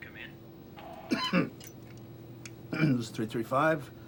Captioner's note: Gordon coughs